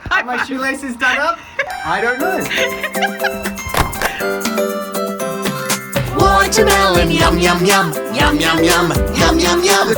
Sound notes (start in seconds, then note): 0.0 laughing; 2.4 laughing; 4.3 bouncy upbeat music